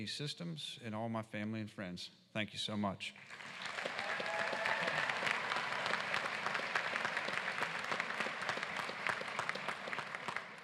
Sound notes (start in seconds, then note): 4.9 applause